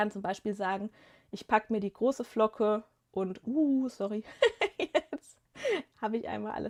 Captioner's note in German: gelächter